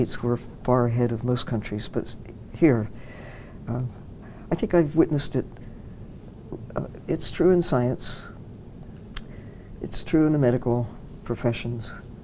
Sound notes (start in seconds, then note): none